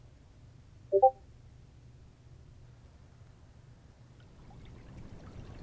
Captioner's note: little bleep-bloop notification noise